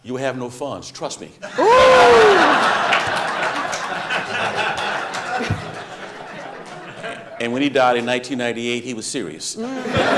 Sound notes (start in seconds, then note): 1.4 audience laughing; 9.6 audience laughing